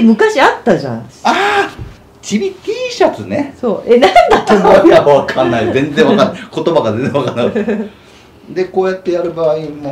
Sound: laughs

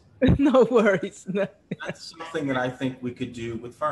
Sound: laugh

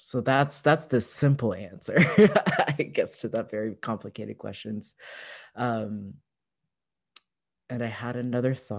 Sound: laughter

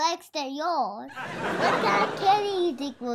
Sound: audience laughs

